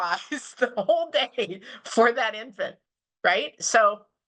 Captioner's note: laughs